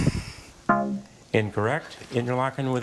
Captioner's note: bell blares